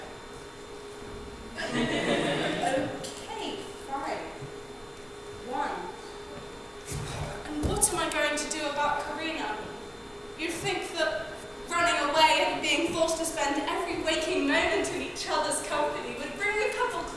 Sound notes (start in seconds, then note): 1.6 audience laughs